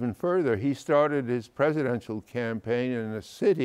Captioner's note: none